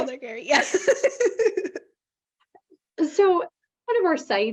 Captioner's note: both laughing